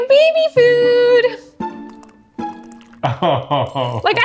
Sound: juice trickling; chuckling

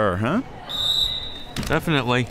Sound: whistle

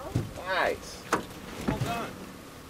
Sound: fish thrashing

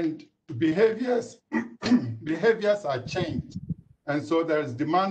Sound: clears throat

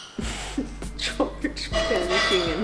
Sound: laughs

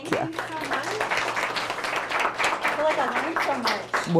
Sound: attendees clapping

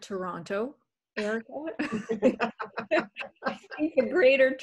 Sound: all laughing

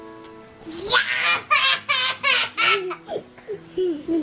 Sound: laughing

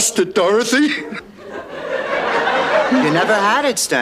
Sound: audience laughter

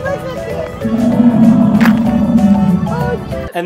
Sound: dinosaur roaring

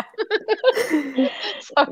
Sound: chuckle

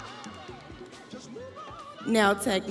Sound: crowd cheering

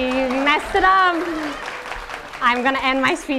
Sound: audience applauding

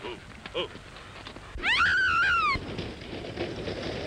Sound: woman screaming

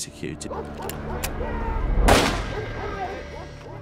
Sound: gun clicks; gun fires

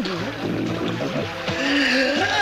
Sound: gasping

